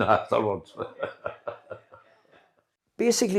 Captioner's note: laughter